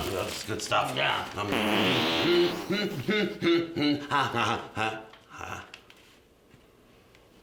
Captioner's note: farting sound from can